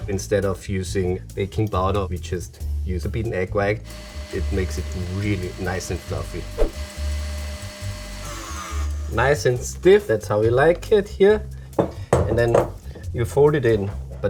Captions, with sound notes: Instead of using baking powder, we just use a bit egg white, it makes it really nice and fluffy. [groovy music] [mixer whirring] Nice and stiff. That's how we like it here. And then you fold it in,